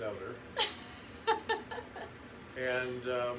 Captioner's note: laughs